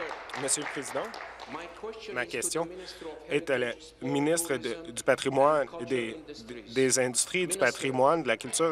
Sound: applause

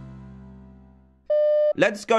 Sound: beep; British accent

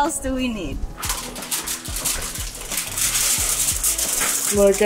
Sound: crinkling foil

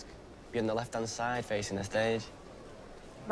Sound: none

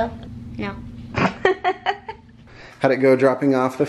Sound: mom laughs

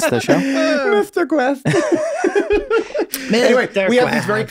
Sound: all laughing

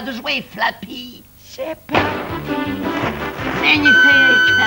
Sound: sleepily

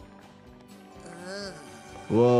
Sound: Lisa groaning

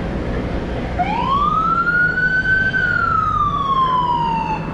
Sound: police siren

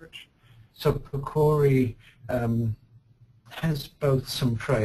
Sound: voiceover

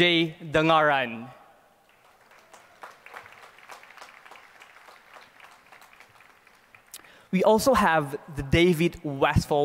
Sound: applause

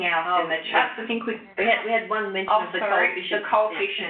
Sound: chuckles

